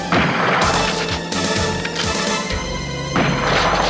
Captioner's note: guns firing